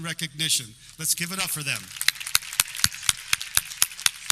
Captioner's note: clapping